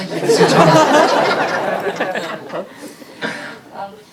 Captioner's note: audience laughing